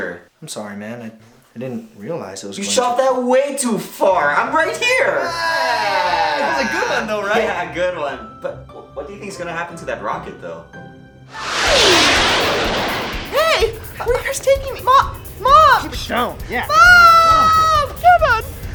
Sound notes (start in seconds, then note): 11.3 swoosh!